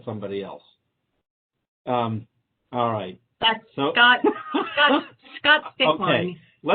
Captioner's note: laughter